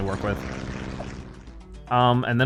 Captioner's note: airplane buzzing